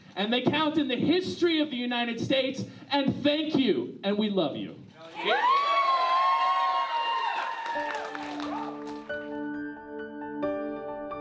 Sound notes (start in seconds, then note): 5.0 guests clapping; 5.0 guests cheering; 7.7 uplifting piano music